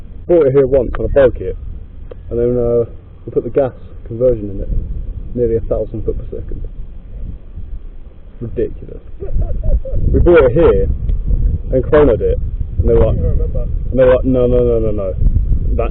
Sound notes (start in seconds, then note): 9.2 laugh of disbelief